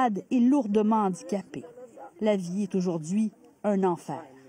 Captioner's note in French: propos en arabe